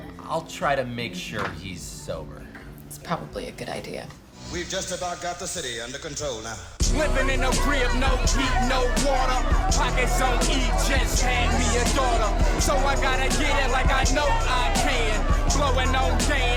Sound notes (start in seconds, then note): 8.2 indistinct shouting